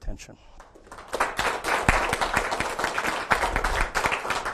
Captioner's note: audience clapping